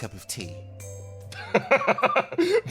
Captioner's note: laugh